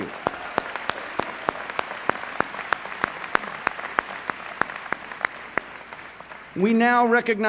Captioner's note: applause